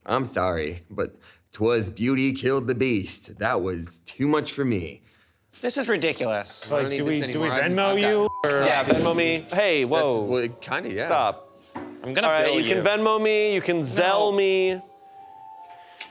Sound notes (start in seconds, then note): 7.4 beep; 9.1 board banging